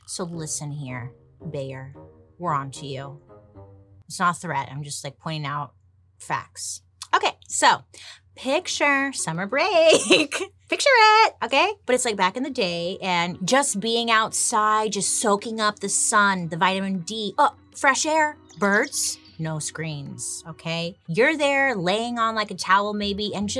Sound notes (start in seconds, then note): 9.9 laughs